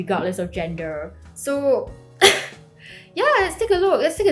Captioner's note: coughs